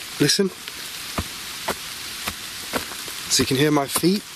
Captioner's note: footsteps crunching